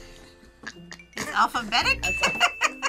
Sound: bell rings; laughs

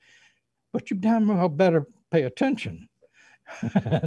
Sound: laughs

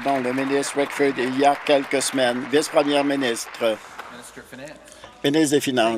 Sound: applause

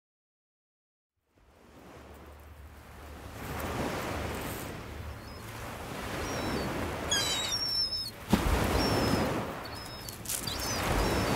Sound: sound of seagull

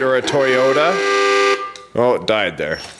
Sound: horn honks

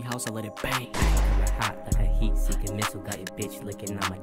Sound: gunshot

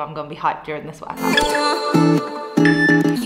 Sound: upbeat music; timer beeping

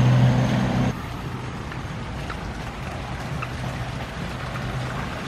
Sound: water splashing

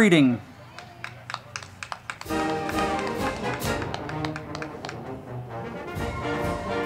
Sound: crowd clapping; band music

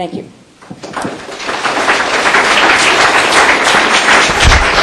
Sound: applause

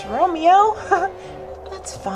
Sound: laughs

